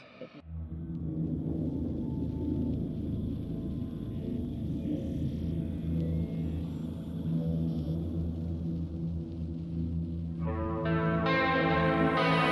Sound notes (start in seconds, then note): 0.0 haunting noises